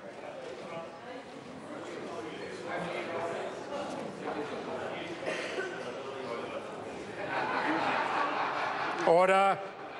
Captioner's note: general hubbub